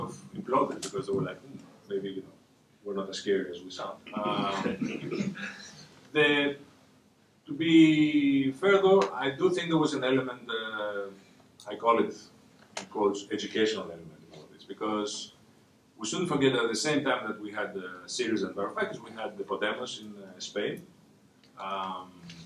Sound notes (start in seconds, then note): 6.6 laughter